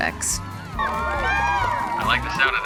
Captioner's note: cheering